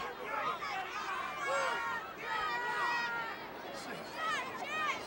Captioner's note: audience shouting